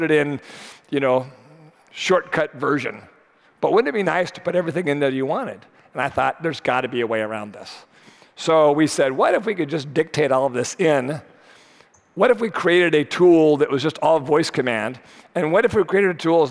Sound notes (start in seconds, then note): none